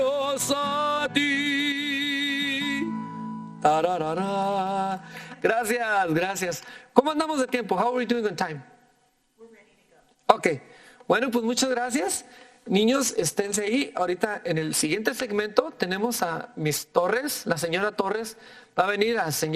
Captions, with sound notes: (speaking in foreign language) How are we doing on time? - We're ready to go. - Okay. (speaking in foreign language)